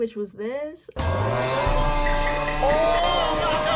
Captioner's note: pipe falling; sus imposter sound effect; another pipe falling